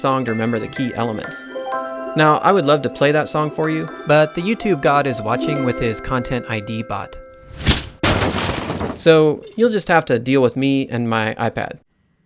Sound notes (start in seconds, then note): 7.6 bot crashing